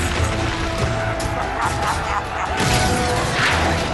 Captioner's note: evil laugh